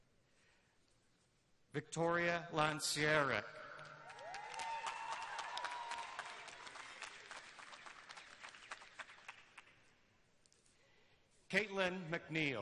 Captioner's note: names being read, cheers and applause throughout